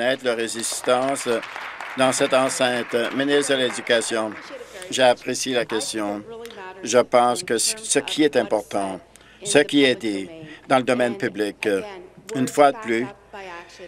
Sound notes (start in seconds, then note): 4.8 applause